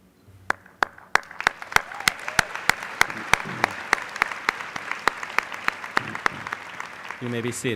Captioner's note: applause